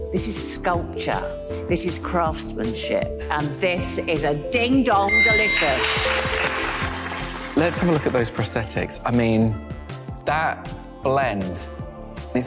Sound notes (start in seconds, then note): 5.1 graphics dinging; 5.2 audience clapping